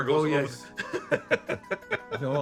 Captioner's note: laughing